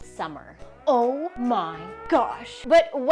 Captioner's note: siren wails